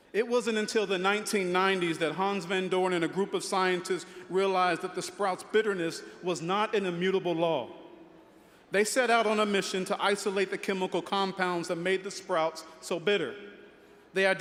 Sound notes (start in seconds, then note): none